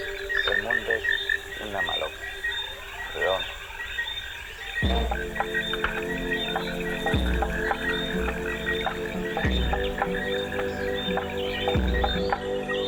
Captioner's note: non-english speech